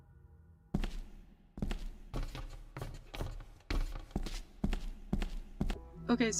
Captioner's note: step step step